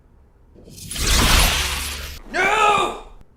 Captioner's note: ominous energy sword sound